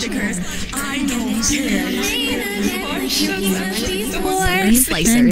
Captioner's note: yapping